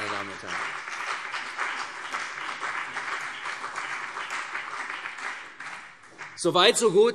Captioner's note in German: Beifall CDU und BÜNDNIS 90/DIE GRÜNEN